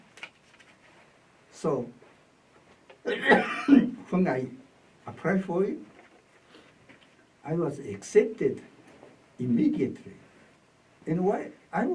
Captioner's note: coughs